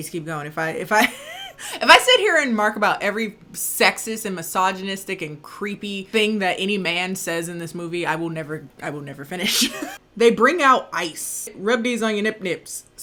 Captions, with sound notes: I need to keep going. If I, if I, (laughing) if I sit here and remark about every sexist, and misogynistic, and creepy thing that any man says in this movie, I will never, I will never finish. They bring out ice, "Rub these on your nip nips,